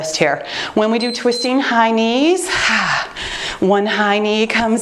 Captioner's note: timer beeps